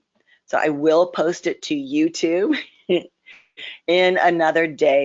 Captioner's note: laughs